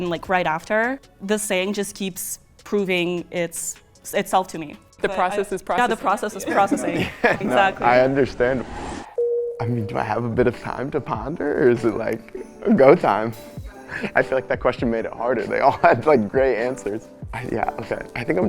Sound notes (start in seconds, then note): 9.4 bell dings